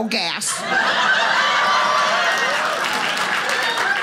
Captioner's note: audience laughing